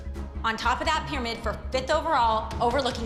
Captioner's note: none